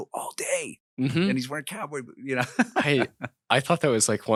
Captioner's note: audience clapping